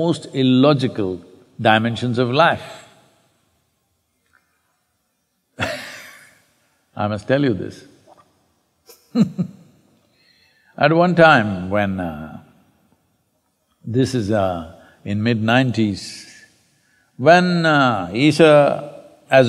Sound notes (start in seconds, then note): 4.7 laughs